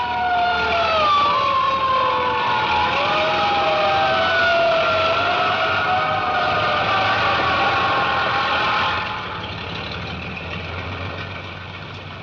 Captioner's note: sirens wailing